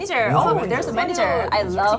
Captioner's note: speaking in English